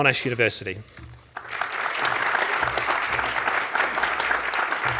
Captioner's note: audience applauds